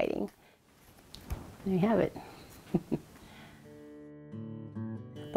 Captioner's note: chuckles